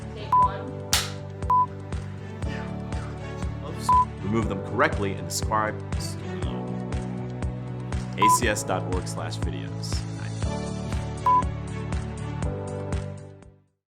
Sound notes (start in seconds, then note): 0.3 beep; 2.6 speaking faintly; 11.2 beep